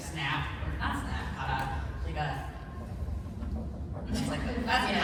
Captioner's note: rhythmic tapping on table